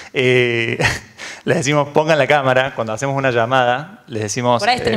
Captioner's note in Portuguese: Risos